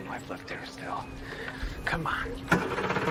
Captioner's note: engine cranks